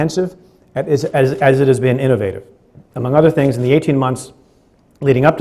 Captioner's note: stutters